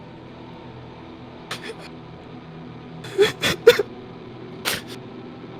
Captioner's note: cries